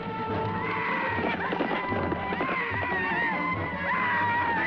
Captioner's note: men shouting